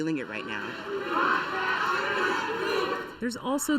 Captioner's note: protesters chanting